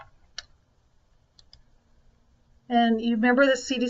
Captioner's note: computer mouse clicks